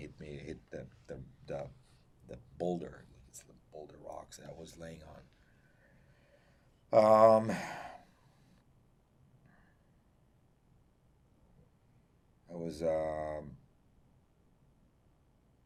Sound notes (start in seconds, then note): 5.4 pauses 6 seconds